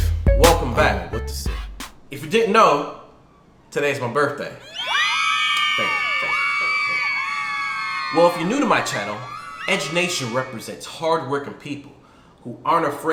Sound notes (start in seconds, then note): 0.0 rap Music; 4.6 high pitched screams